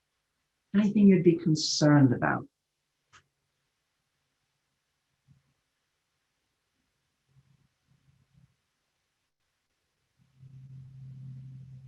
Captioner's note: pause